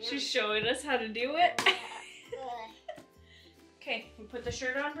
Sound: laughs

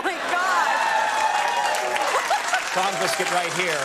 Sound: audience cheers

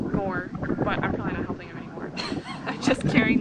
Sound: laughs

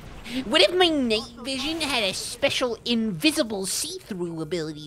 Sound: nerd voice

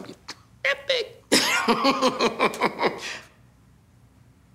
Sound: laughs

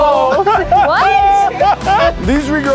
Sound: laughs

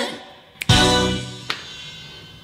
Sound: snap

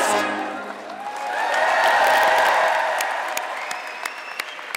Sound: audience clapping

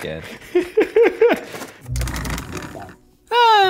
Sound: laughing

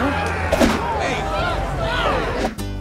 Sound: excited chatter

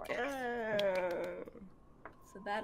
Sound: clapping

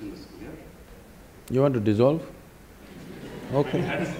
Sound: laughter

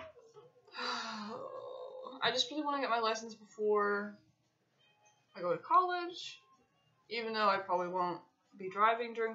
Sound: sighs

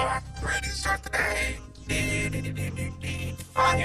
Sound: hums

